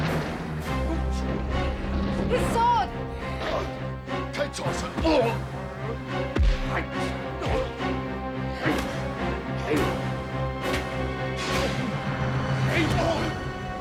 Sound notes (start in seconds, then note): 0.3 dramatic music; 6.2 men grunt; 6.4 punches thud; 7.9 dramatic music